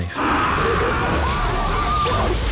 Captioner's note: all screaming